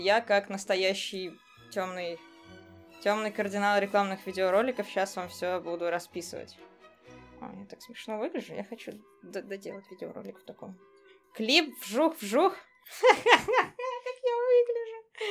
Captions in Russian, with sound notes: Я, как настоящий тёмный, тёмный кардинал рекламных видеороликов, щас вам все буду расписывать. О, я так смешно выгляжу! Я хочу доделать видеоролик в таком виде Клип "Вжух-вжух"... *смех* Как я выгляжу?